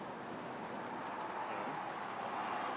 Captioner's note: street din